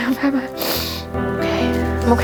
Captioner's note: blows nose